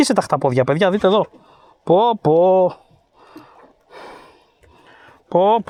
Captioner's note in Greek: αναστενάζει